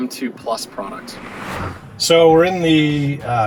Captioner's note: air whooshes